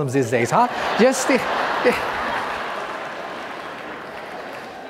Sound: audience laughing

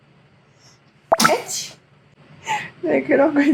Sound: sneezing

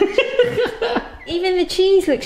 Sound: both laughing

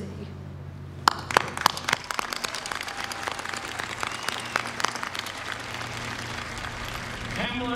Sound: applause

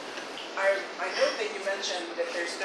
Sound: voiceover

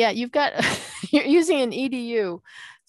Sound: laughing

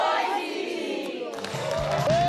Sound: applause

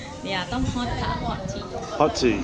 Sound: laughing

